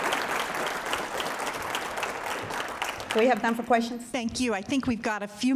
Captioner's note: applause